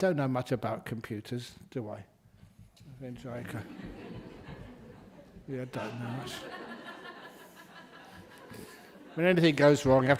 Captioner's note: laughter